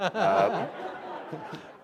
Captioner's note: laughter